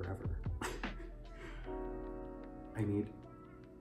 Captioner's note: scoffs